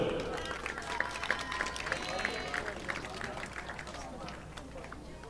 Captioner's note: audience applauding